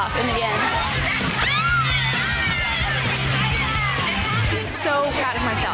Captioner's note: upbeat music; women cheering